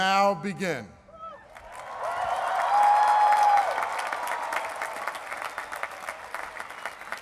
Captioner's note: cheering and applause